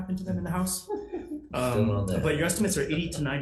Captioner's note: chuckling